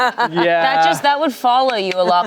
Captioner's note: everyone laughs